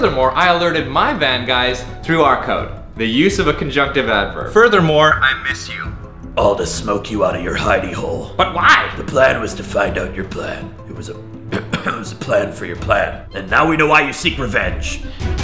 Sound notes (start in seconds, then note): 11.4 coughs